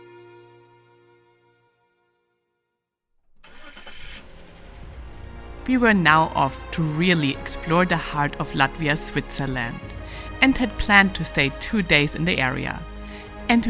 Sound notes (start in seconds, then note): 3.4 car engine rumbling